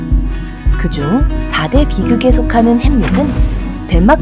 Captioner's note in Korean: 반짝이는 효과음